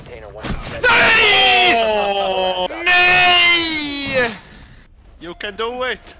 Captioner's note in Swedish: way to loud screaming